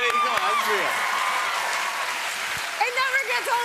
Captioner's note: cheers and applause